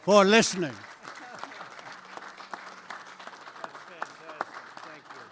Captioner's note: applause